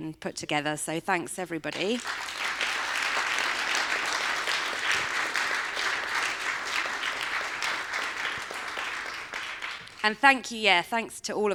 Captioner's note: applause